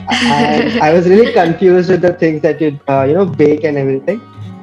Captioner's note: laughs